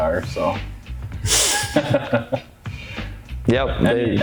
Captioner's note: laughing